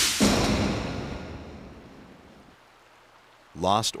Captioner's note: explosion